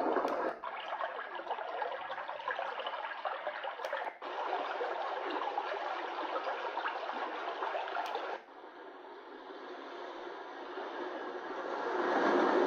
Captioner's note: white noise